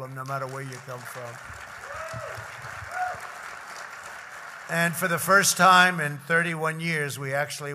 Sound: applause

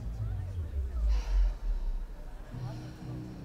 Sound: shiv sighs

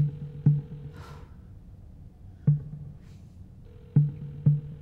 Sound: phone ringing

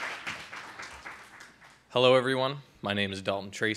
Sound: applause

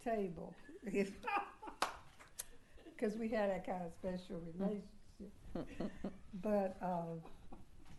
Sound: laughter

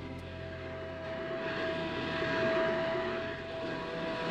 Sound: vacuum droning

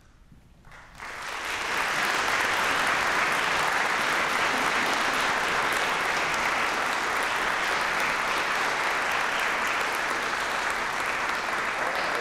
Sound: applause

